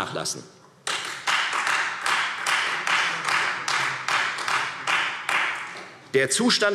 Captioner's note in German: Beifall